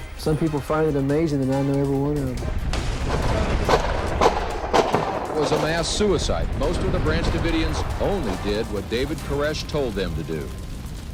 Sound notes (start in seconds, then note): 2.4 guns banging